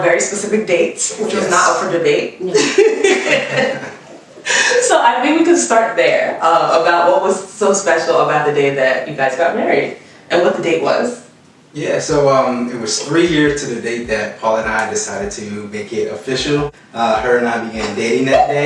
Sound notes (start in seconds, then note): 2.3 laughs